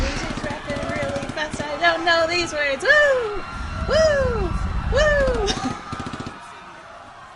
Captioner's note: breaks into laughter